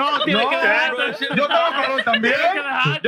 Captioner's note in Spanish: Hablando en idioma extranjero